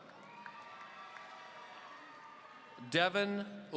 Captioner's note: audience cheering